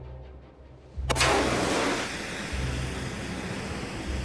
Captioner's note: flame hissing